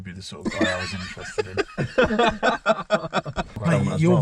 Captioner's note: laughing